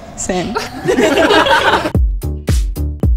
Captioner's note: everyone laughing; upbeat music